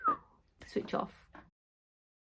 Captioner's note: lady whistling